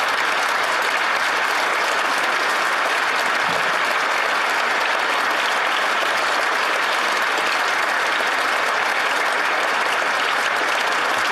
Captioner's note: applause